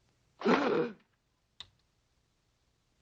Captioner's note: gasps